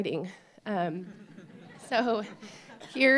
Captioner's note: laughter